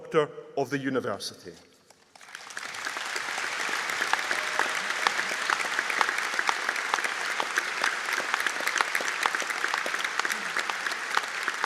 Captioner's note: audience Applause